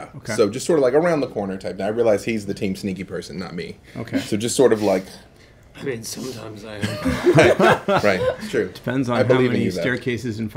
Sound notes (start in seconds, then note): 6.8 laughing